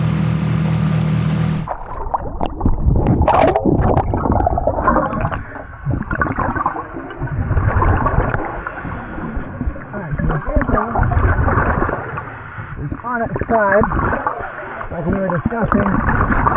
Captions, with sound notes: (water sloshing) All right, so we're at the car. It's on its side, like we were discussing.